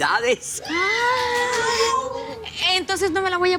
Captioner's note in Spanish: Exclamaciones